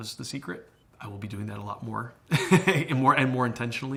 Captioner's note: chuckles